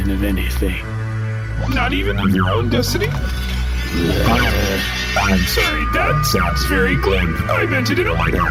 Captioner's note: draws a sword while growling